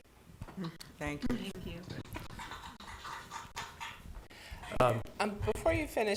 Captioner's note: applause